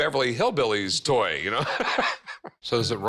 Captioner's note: both laugh